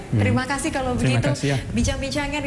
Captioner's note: non-english speech